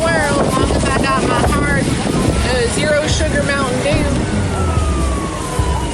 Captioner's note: police sirens